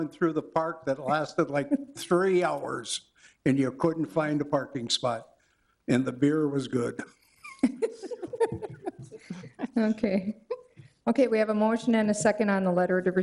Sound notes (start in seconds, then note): 7.4 attendees laughing